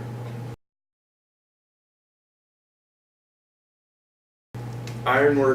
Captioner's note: silence